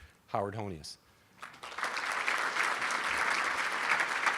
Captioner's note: applauding